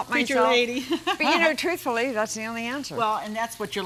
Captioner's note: laughs